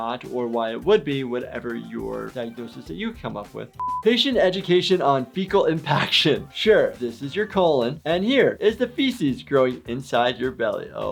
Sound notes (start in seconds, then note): 3.8 high pitch beep